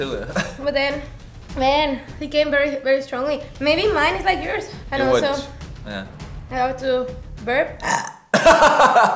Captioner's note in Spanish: eructos